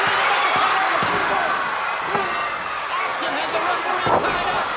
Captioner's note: crowd cheering